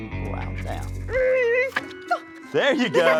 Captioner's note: groans